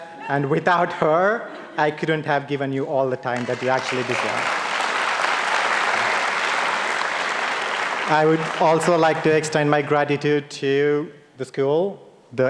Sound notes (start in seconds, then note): 3.3 audience applauding